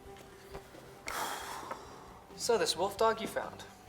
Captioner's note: Ozz sighs